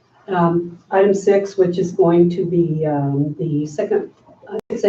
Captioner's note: audio glitches